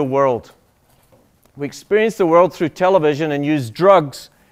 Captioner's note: none